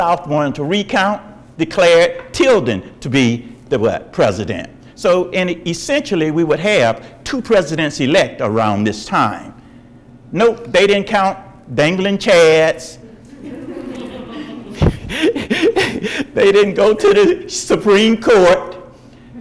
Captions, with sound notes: The south wanted to recount, declared Tilden to be the what? The president. So essentially we would have two presidents elect around this time. Nope, they didn't count dangling chads. (audience laughs) They didn't go to Supreme Court.